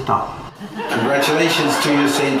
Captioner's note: laughter